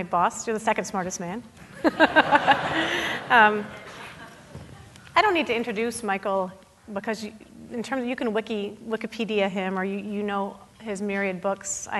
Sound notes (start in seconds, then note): 1.7 audience laughing; 1.8 laughing